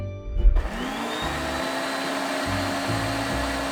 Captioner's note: blender whirring